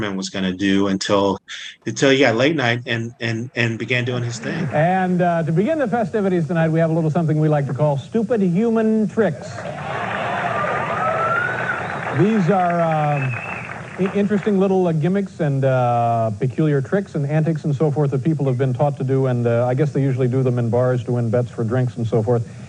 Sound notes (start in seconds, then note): 9.5 applause